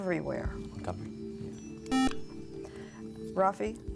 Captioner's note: a whispered "Montgomery"?